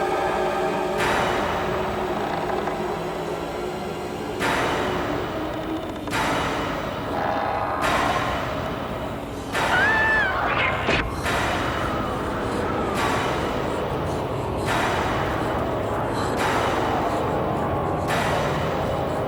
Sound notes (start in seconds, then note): 9.5 Cathy screaming; 11.5 tense dramatic music; 15.8 Cathy panting